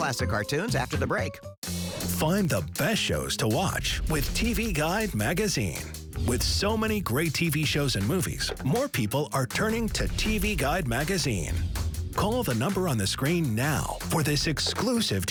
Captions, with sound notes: Four, three... [imitates static] Keep him busy for a few more seconds, partner. Two, one. We have lift off. [imitates rocket lift off]